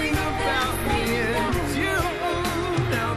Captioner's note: applause